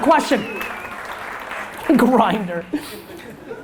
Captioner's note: audience applause